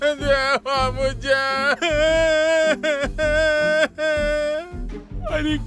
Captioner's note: crying